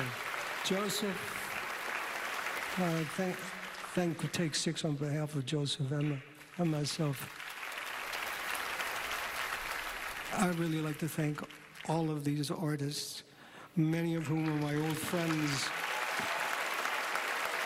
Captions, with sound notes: So, Joseph, I thank-thank Take 6 on behalf of Joseph-- them, and myself. (applause) I'd really like to thank all of these artists, many of whom are my old friends.